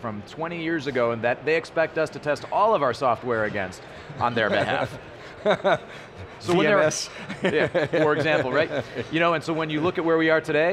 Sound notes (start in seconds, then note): 4.4 laughing